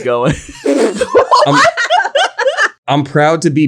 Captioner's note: laugh